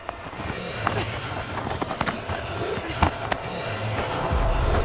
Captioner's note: loud grunting